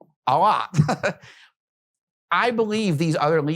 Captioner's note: chuckles